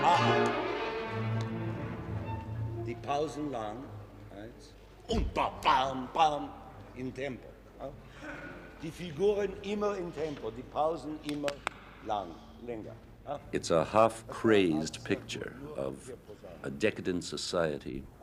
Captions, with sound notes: Ah! (orchestra stopping) (speaking foreign language) It's a half crazed picture of a decadent society